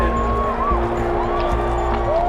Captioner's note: crowd cheering